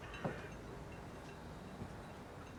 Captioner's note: none